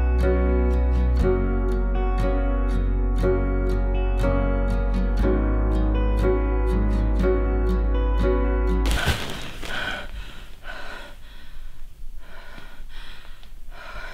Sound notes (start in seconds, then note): 8.9 Leanna pants